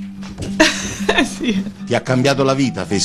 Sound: giggles

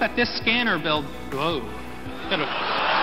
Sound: laughs

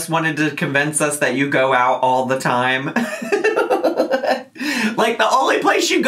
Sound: laughs

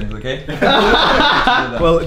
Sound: laughs

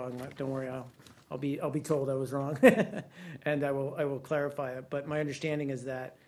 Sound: laughter

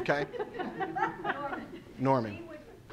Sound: laughing

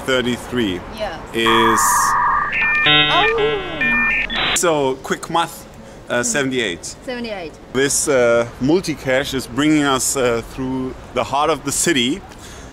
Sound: modem noises

